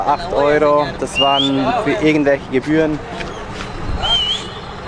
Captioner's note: whistles